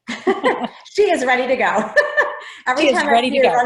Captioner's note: laughs